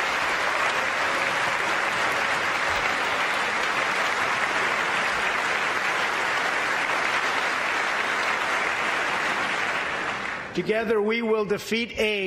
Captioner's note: applause